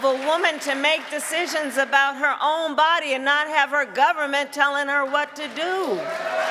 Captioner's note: cheering and applause